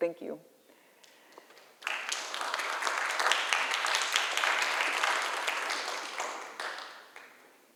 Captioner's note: applause